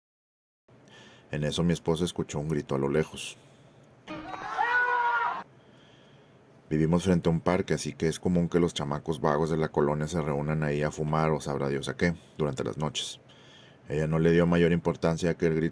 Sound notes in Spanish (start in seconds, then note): 4.0 Grito en la lejania